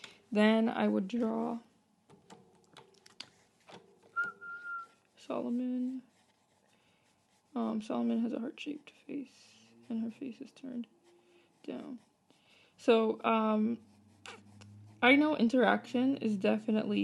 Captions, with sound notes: Then I would draw *whistles* Solomynn Solomynn has a heart-shaped face and her face is turned down So I know interaction is definitely